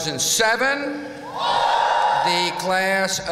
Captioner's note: whoop!